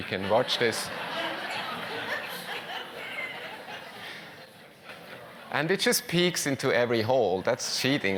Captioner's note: laugh